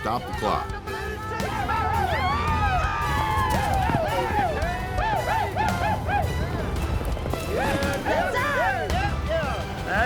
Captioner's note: cowboys cheering